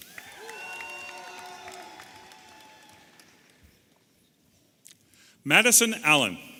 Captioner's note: audience applauding and cheering